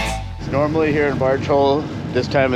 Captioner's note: boat engine idling